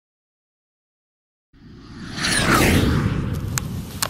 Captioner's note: airplane sound